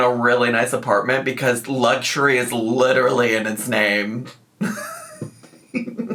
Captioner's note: laughs